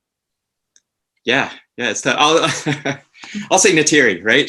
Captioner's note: laughs